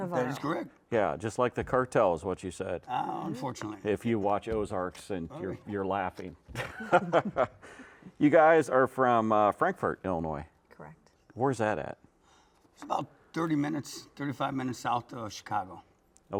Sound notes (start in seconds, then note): 6.5 laughs; 6.6 chuckles